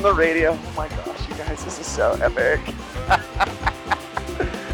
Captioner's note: laughs